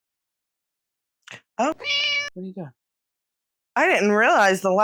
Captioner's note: meow